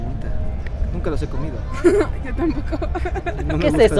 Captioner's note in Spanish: risas